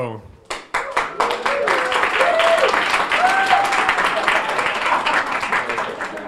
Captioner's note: audience applauding and cheering